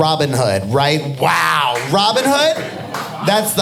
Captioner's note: audience applauding